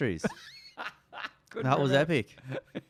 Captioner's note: laughs